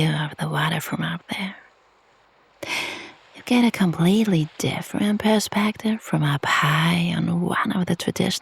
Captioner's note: sighs